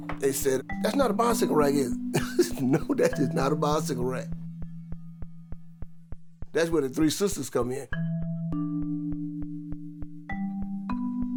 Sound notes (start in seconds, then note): 0.9 chuckles; 8.7 calm music